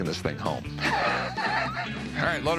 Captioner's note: laughs